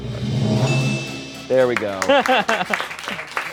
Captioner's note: bell dings